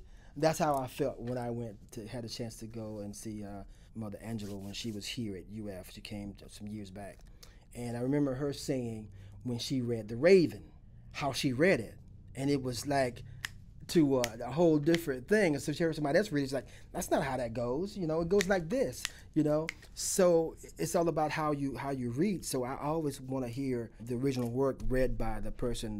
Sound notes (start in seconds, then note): 14.8 snapping fingers; 18.3 snaps fingers